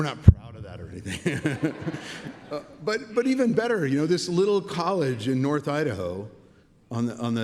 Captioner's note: laughs